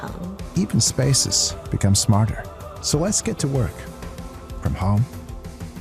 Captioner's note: speaking in foreign language